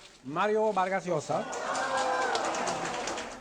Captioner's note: Aclamaciones y aplausos